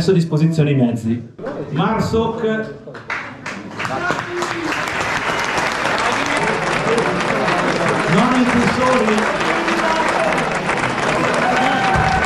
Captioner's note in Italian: Applauso